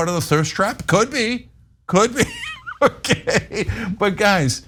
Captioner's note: laugh